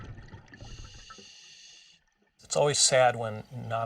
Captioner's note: diver breathing